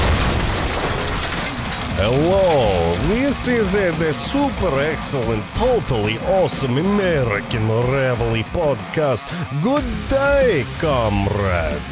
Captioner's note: Russian accent